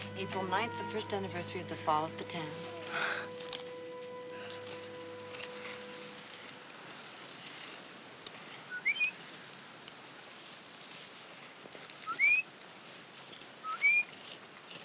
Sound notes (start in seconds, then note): 8.7 whistling